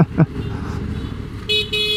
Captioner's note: laughs